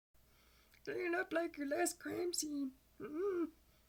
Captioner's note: excited Glendale noises